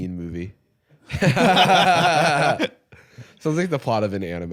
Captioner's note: both laughing